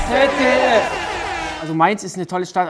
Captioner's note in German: Jubel, Buzzer